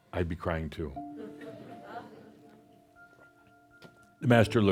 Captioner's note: some chuckles